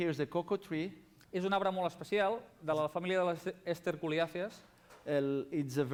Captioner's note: non-english speech